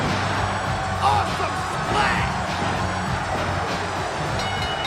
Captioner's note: hand pounding; bell dings